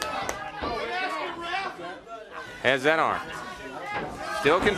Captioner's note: crowd chatter